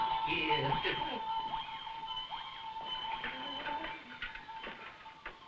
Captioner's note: Burgomil chuckling